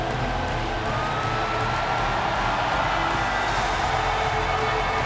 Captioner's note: audience cheers